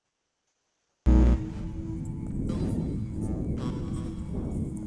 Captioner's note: buzzing